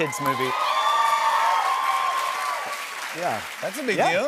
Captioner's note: cheers and applause